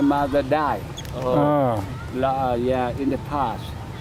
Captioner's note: both groan sympathetically